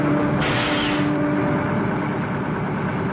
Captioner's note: brakes squeak; truck engine whirring